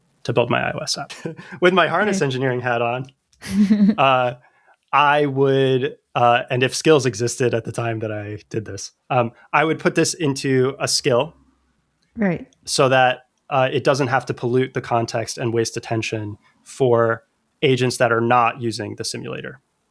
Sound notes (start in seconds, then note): 3.4 laughter; 3.9 uh; 12.6 uh